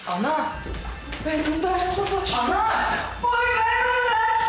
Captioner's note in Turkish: bağırıyor